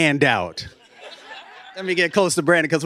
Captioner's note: laughter